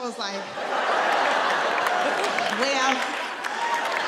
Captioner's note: audience laughing